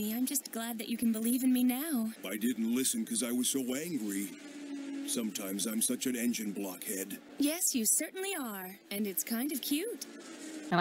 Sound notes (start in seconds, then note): none